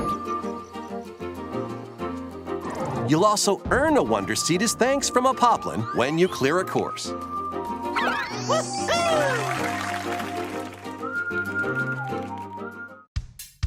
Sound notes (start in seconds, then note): 8.8 cheering